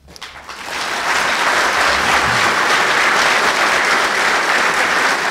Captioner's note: audience laughing